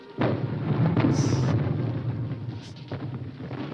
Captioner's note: bomb rumbling